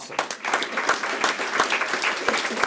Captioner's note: applause